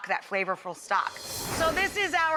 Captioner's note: air whooshes